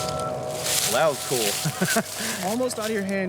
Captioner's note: laughs